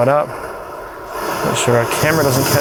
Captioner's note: flame whooshes